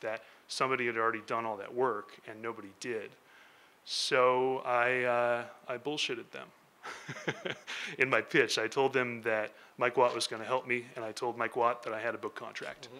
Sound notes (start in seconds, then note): 6.8 laughing